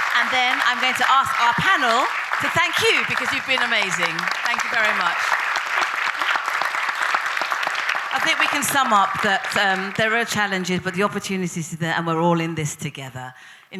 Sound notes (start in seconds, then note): 5.9 audience applauding